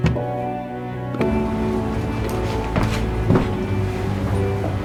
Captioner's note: knocks on door